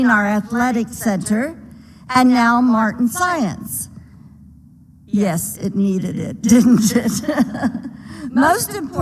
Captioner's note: laughter